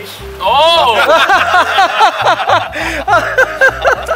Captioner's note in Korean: 폭소